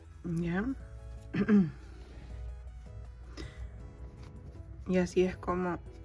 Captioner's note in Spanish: carraspeo